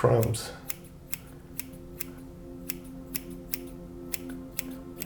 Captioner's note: scissors snipping